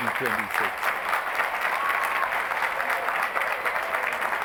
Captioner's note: applause